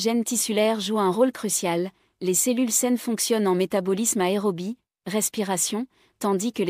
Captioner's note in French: respiration